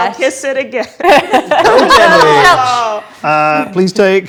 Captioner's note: group laughs; overlapping chattering